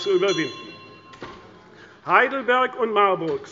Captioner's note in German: Anhaltende Unruhe – Glockenzeichen des Präsidenten